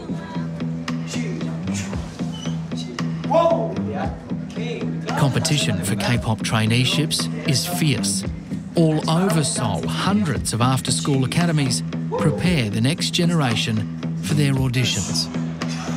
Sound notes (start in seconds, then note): 1.8 speaks korean